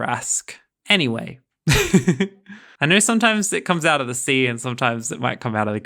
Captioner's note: laughing